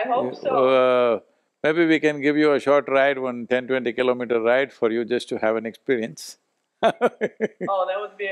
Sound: laughs

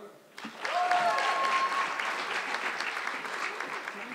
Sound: audience clapping

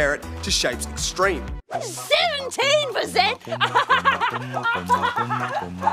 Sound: laughs manically

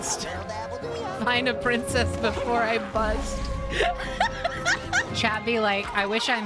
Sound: laughter

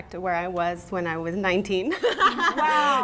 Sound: laughs

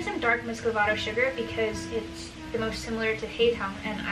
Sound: speaking foreign language

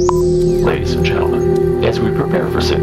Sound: radio voice 1

